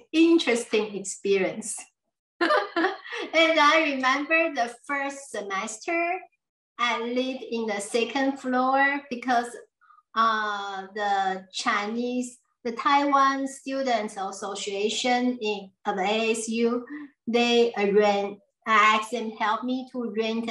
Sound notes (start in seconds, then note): 2.4 laughs